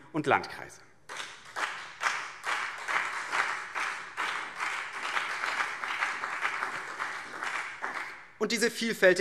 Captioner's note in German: Beifall BÜNDNIS 90/DIE GRÜNEN und CDU